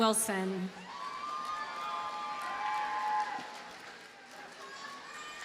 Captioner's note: audience cheers and applauds